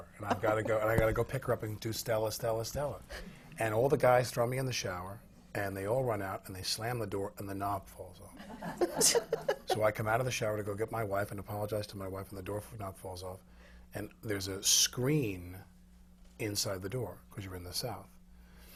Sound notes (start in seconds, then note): 8.4 laughter